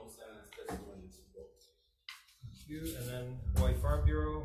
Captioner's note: none